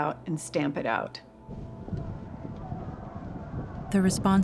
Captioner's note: distant shouting